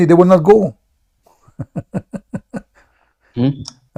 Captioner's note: Ketawa